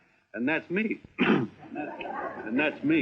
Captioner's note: clearing throat